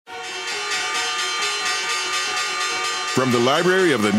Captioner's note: bells chiming